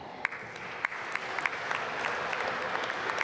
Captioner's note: applause